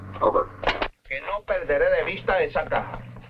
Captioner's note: General Tostada speaking in Spanish